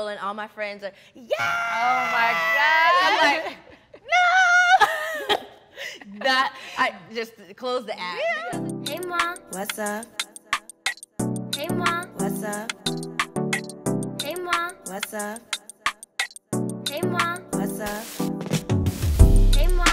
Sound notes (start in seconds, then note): 5.1 laughs; 8.5 gentle upbeat music